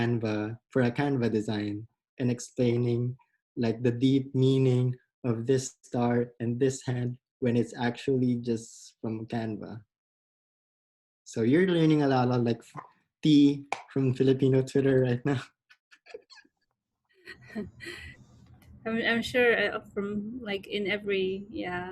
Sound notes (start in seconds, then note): 16.0 laughs